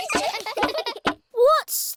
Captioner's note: all giggling